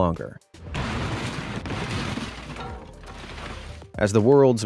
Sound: fridge thudding

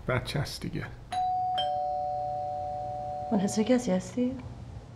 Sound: doorbell ringing

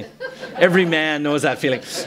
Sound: laughter

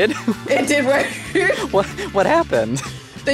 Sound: laughing

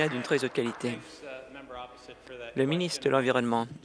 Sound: applause

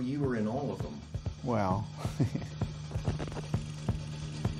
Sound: laughs

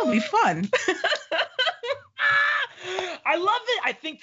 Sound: laughing

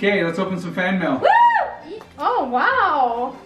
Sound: cheering

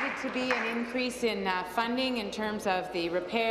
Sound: applause

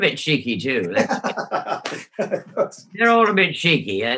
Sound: laughs

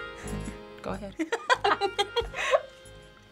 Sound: laughs

